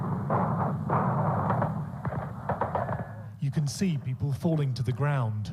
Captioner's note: gunshots